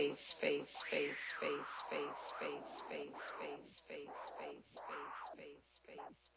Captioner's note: echoes